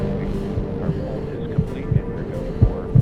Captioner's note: heavy breathing, heart pounding